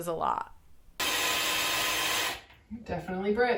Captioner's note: drill running